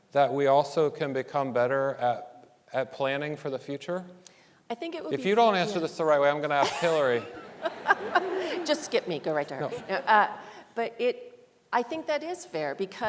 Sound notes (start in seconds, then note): 6.6 panelists laughing; 6.6 laughs